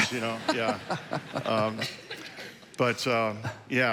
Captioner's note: congregation laughing